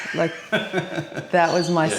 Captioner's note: laughing